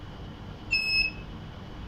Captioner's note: beeps